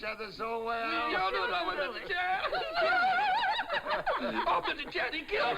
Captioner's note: chattering and laughing